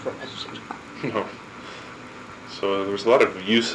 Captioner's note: chuckling